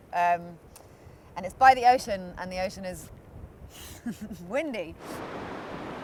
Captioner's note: laughs